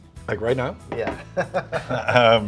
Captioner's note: laughing